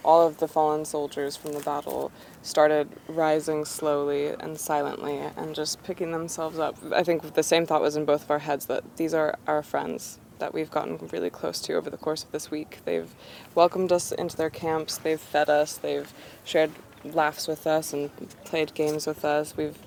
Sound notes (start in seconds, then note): none